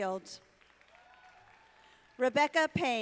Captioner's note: audience applauding